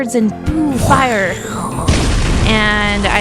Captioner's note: makes fire whooshing sounds; fire sounds